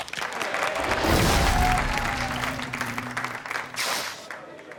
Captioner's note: audience clapping